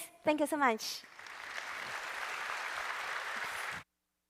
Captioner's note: applause